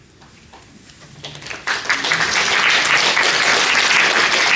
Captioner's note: applause